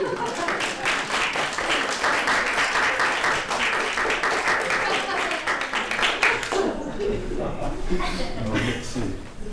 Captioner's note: applause